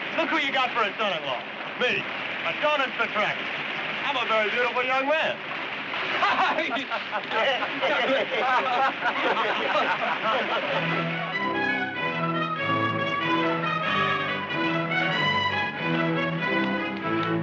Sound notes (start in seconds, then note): 6.0 Greeks laughing; 10.4 upbeat orchestral music